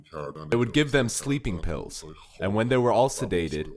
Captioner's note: through translator